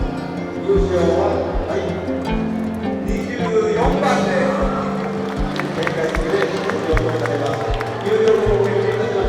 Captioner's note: applause